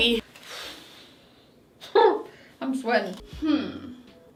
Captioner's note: sighs